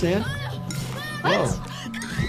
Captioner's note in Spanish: Harriet gritando